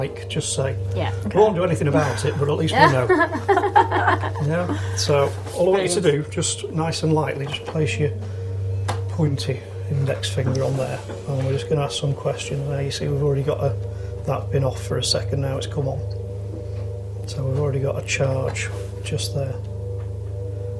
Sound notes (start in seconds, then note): 1.9 laughing